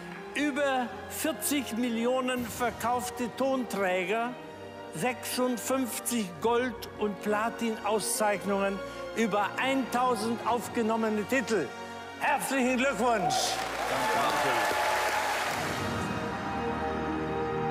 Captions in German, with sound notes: Über 40 Millionen verkaufte Tonträger. 56 Gold- und Platinauszeichnungen. Über 1.000 aufgenommene Titel. Herzlichen Glückwunsch! (Applaus, Jubel) (Magische Musik)